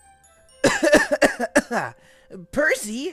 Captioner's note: thomas coughs